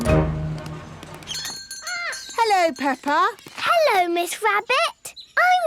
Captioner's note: bell jingling